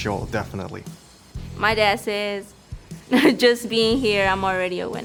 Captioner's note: chuckles